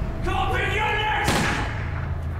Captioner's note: gunshot